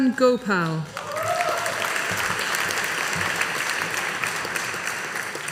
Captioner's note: audience applauding